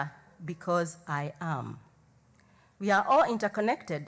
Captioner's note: speaking native language